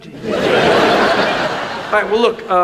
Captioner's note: audience laughs